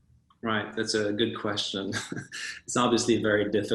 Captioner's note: laughs